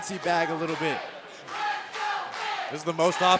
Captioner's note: crowd cheering